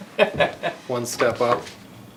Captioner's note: men laughing